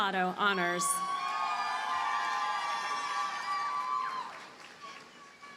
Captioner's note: audience cheers and applauds